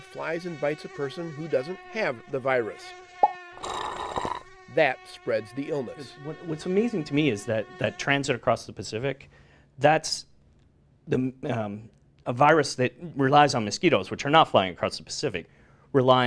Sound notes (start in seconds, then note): 3.6 slurping